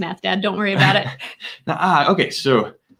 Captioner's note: both laughing